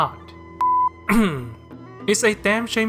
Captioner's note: cough